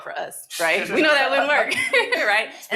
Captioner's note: audience laughing